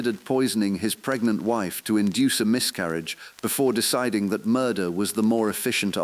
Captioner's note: exhale